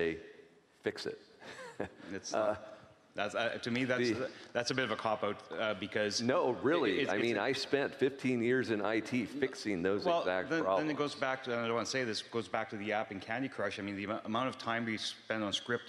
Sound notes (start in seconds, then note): 4.0 chuckling